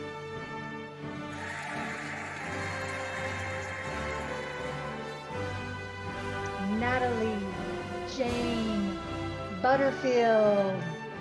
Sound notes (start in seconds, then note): 1.2 cheering and applauding